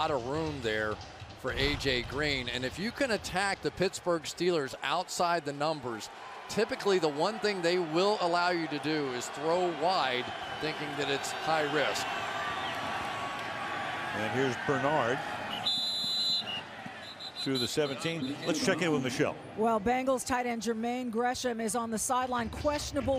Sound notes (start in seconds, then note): 15.5 whistle